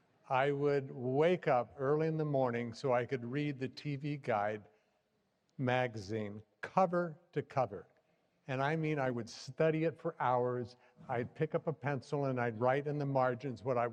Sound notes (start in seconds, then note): none